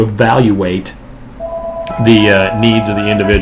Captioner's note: chimes ring